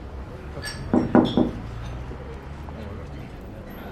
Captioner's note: knock on window